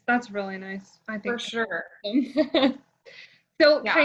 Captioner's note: laughs